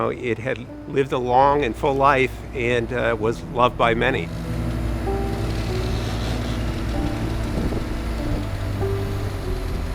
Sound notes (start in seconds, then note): 4.3 whirring; 4.3 somber piano music